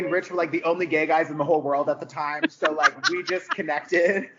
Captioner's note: laughing